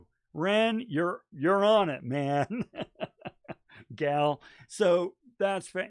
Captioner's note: chuckling